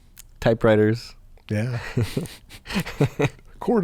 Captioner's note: chuckles